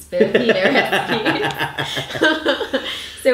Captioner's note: laughs